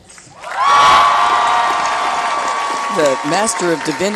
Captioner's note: applause